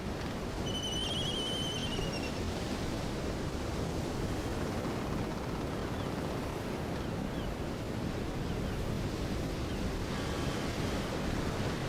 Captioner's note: seagull cries